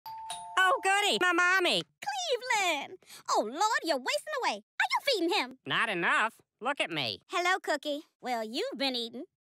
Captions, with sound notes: *ding dong* Oh goody, my mommy! Cleveland! Oh Lord, you're wasting away. Are you feeding him!? Not enough. Look at me! Hello, Cookie. Well you've been eatin'.